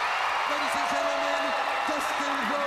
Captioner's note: crowd cheering